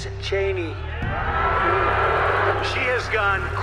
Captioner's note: crowd booing